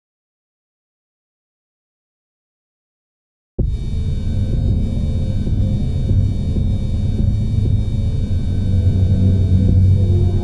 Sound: sound of temple in electric shadow

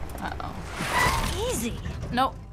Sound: tires screech

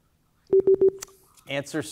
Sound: students whispering; tone beeping

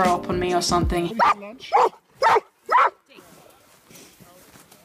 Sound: dog barking

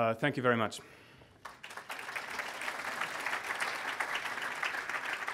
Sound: applause

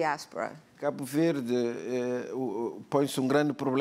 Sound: speaking portuguese

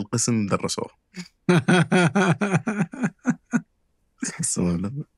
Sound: laughter

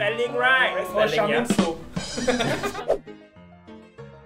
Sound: laughs

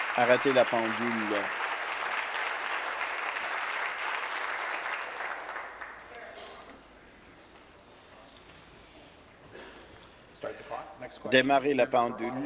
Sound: applause

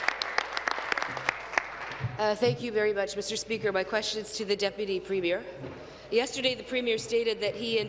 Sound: applause

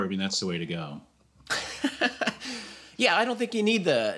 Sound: laughter

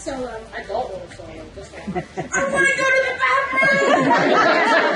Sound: laughter

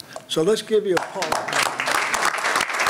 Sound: applause

